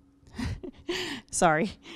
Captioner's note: laughing